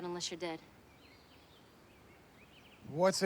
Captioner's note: birds chirping